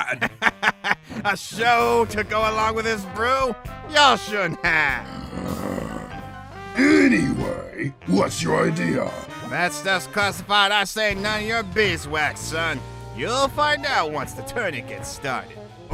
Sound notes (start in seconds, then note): 0.0 laughs; 5.0 growls